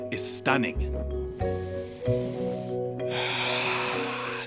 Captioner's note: exhaling deeply